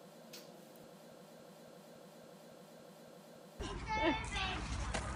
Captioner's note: kiss smacking; kids talking faintly